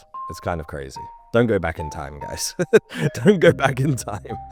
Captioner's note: laughs